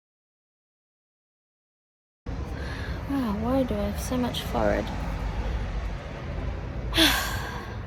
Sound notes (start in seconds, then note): 6.9 sighs